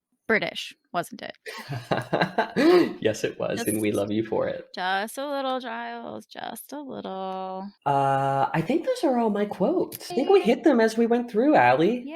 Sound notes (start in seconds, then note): 1.5 laughs